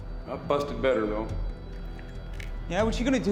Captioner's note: none